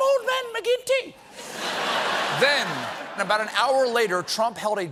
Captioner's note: laughter